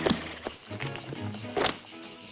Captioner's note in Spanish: relincha